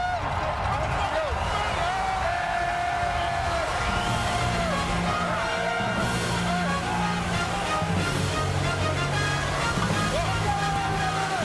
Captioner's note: speaking French